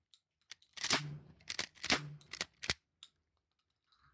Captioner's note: bang, click, bang, click-click